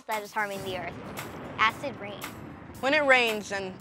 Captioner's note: thunder rumbles